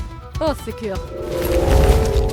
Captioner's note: swears in French